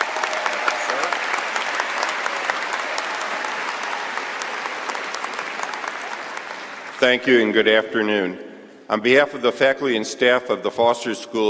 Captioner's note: cheers and applause